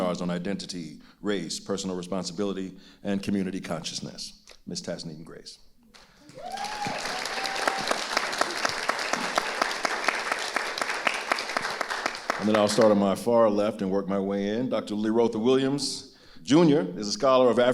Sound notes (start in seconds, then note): 6.2 audience cheering and applauding